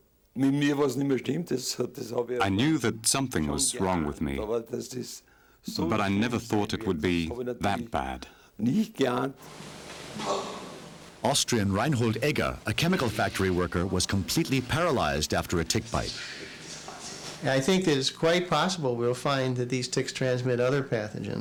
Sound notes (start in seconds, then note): 3.8 speaking in foreign language